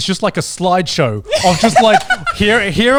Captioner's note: laughs